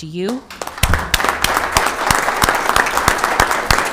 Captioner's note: members applaud